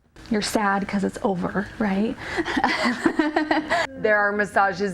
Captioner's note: laughing